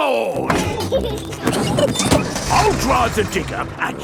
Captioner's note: peppa and george laughing